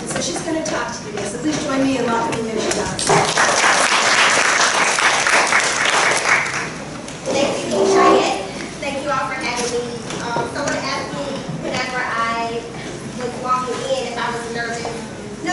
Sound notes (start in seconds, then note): 3.2 audience applause